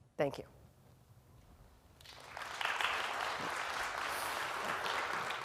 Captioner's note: applause